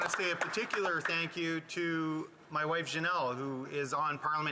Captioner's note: some Applause